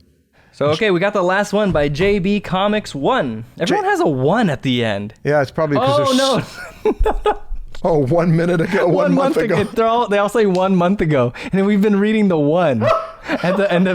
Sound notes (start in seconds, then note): 6.3 laughter